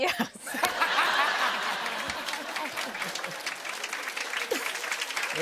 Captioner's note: laughter; chuckling; applause